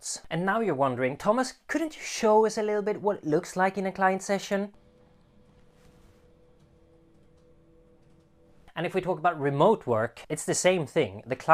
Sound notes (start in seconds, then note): none